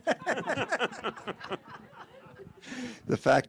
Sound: audience laughing

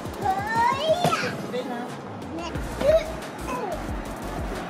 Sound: taps wall

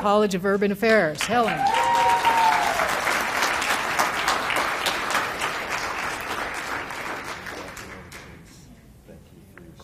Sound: applause

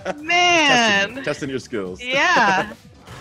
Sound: laugh

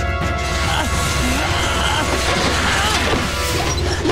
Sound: grunting

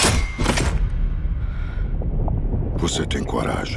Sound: shuddering breath

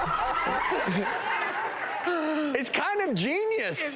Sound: laughing

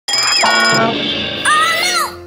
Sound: alarm clock ringing

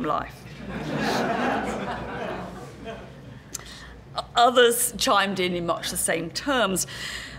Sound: laugh

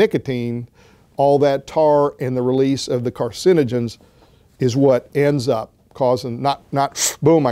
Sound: inhale

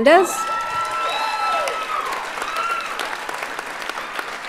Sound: audience applauds

